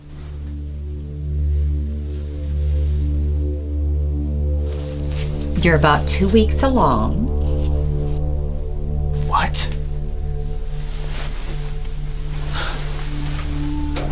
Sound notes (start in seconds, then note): 0.3 dramatic music; 9.0 scoffs